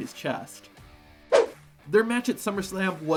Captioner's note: rock music; screen whooshes